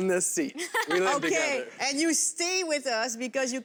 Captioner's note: laughter